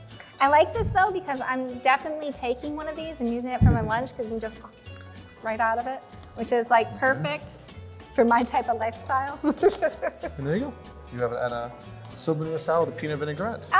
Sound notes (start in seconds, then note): 9.4 laughter